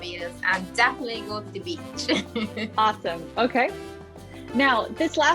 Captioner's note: laughs